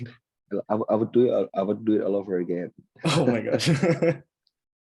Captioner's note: laughs